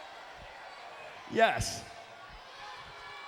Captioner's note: applause